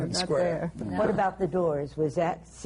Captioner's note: laughs